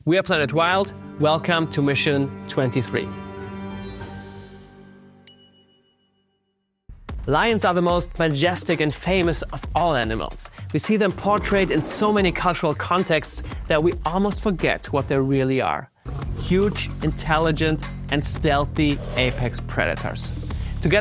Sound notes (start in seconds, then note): 3.5 subdued music; 3.7 bell dings